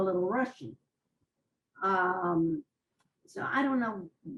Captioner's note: pauses for 3 seconds